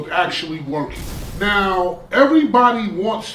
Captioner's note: crashing noise